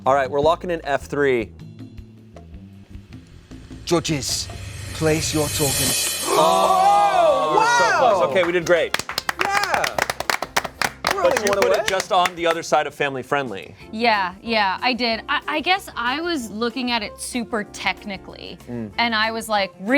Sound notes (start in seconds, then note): 6.2 cast exclaims; 8.0 cast claps